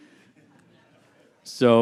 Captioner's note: audience laughs